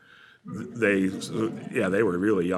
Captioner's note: laughter